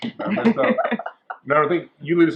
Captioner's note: women chuckling